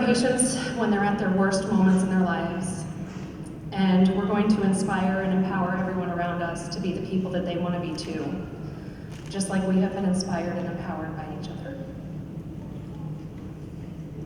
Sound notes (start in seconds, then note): none